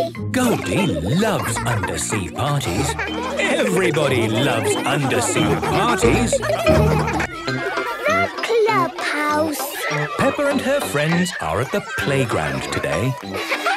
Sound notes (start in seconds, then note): 6.3 laughter